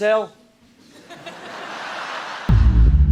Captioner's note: audience laughs